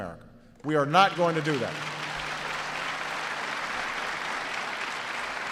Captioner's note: audience applauds